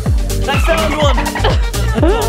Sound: laughing; dolphin clicking

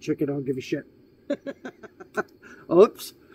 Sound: laughs

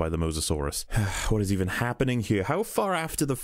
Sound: sigh

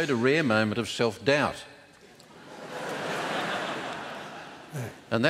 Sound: laughter

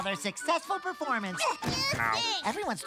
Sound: kid's voice

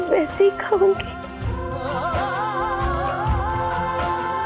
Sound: emotional vocalising

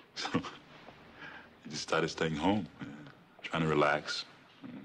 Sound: chuckles

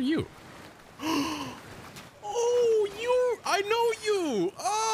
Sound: gasp

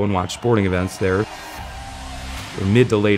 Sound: cheering

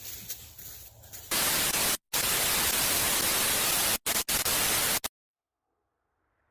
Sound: TV static

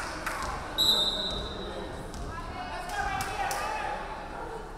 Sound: referee whistling

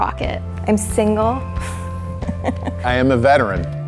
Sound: laughs

